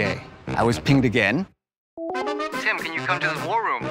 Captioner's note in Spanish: sonido de llamada